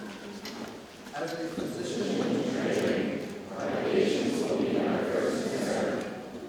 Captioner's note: students recite oath in unison